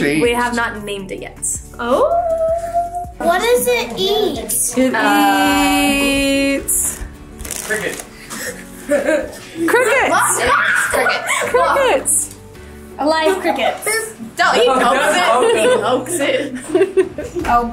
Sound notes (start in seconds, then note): 10.1 girls screaming; 16.2 mom laughing